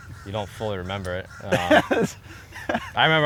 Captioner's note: laughs